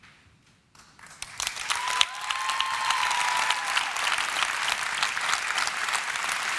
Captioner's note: applause